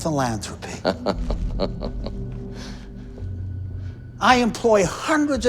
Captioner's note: Chuck laughs